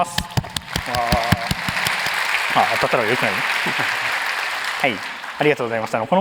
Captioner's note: applause